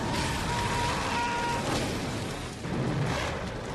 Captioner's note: burning soldiers screaming